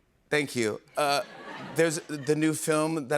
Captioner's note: laughter